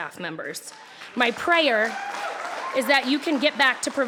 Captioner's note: applauding